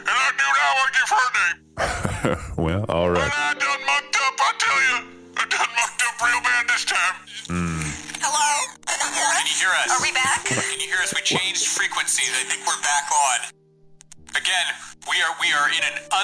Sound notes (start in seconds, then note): 1.8 laughs; 3.7 despairing; 9.5 static breaks and Rolphus and Seesu butt back in